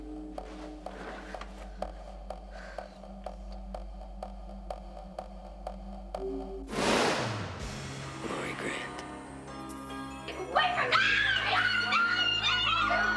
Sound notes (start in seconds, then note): 6.7 hissing; 10.8 screaming